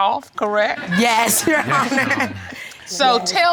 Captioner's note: laughs